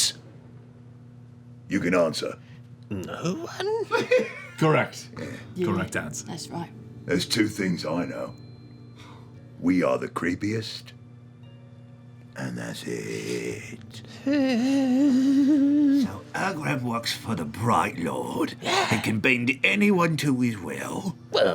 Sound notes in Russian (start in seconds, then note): 12.8 всхлипывает